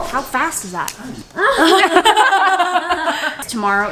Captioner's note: laughing